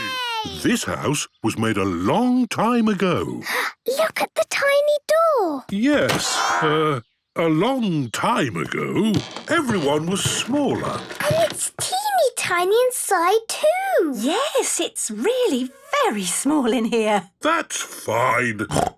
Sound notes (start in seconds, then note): 3.4 gasps; 18.7 snorts